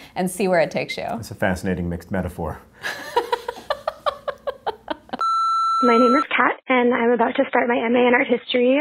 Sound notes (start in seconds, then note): 2.8 laughter